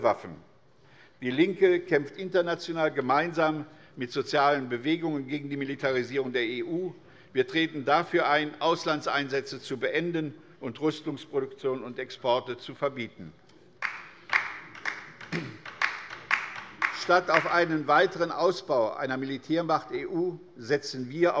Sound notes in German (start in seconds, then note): 13.8 Beifall bei der LINKEN